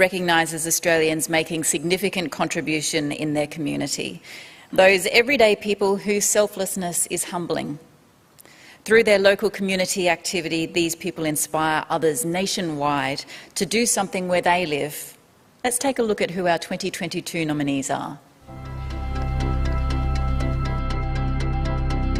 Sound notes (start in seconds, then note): none